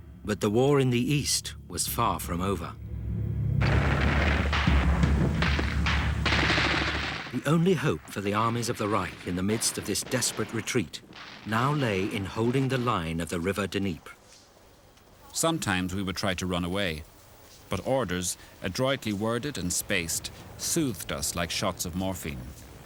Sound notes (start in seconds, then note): 3.6 dramatic percussive music; 3.6 guns firing